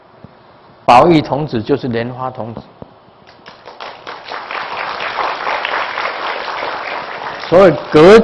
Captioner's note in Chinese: 眾鼓掌